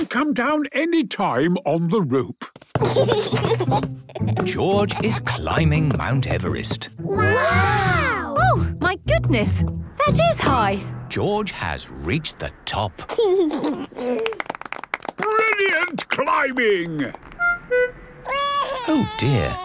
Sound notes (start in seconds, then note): 2.8 giggles; 13.1 George giggles; 14.1 clapping; 18.2 crying